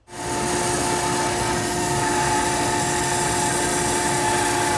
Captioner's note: machinery whirs